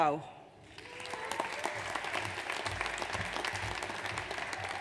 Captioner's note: audience applauds